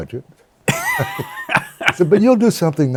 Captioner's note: laughter